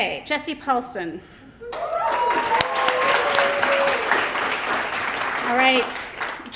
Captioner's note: applause